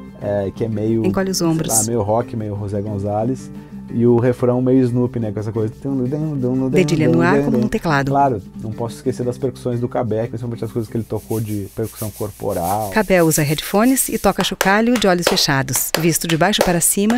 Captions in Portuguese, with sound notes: que é meio, sei lá, meio rock, meio José González e o refrão meio Snoop com essa coisa... [fazendo sons animados com a boca] Claro, não posso esquecer das percussões do Kabé, principalmente as coisas que ele tocou de percussão corporal. [som ritmado de chocalho]